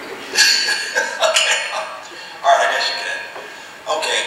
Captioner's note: laughing